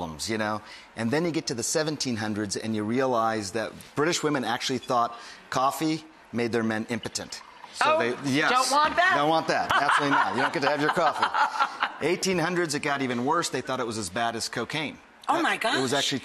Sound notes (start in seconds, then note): 12.2 laughs